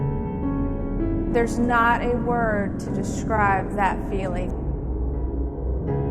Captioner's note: voice over, female